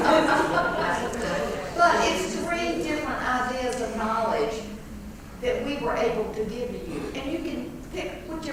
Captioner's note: laugh